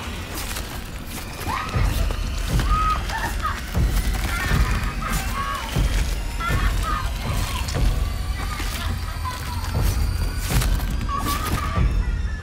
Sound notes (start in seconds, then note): 0.8 screaming